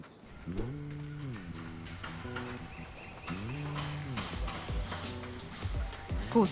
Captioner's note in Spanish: Sonidos de construcción